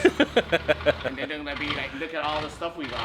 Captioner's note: laughing